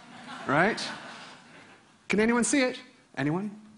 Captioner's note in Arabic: ضحك